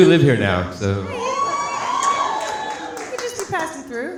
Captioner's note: audience laughing